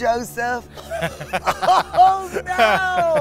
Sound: laughs

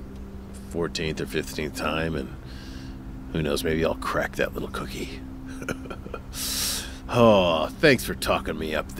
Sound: laughs

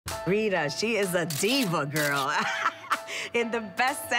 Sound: laughs

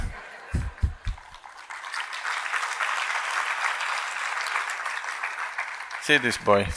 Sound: laughter/Applause

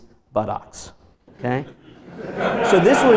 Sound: audience laughs

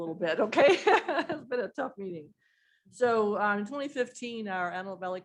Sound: laughter

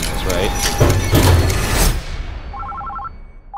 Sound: metal object banging; ominous eerie music; phone ringing

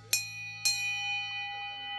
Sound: bell Dings

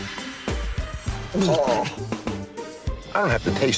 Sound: gags

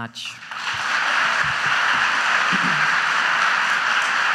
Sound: audience applauds

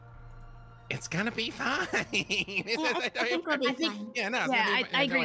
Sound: laughs

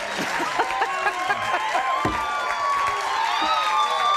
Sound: applause; laughing

